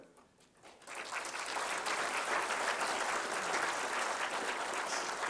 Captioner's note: applause